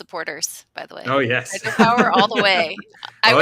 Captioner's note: laughing